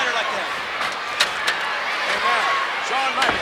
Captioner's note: ladder clattering